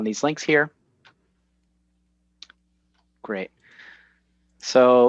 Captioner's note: smacks lips